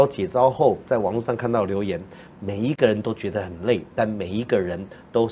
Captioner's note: speaking in foreign language